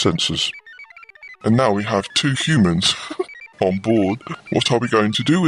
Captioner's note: laughs